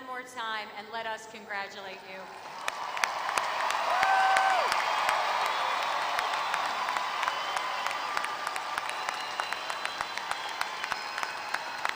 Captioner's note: applause